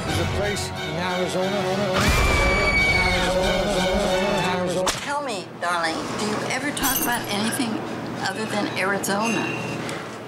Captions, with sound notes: There's a place in Arizona... (screaming) - Tell me, darling, do you ever talk about anything other than Arizona?